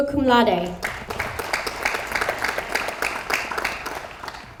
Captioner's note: audience applauds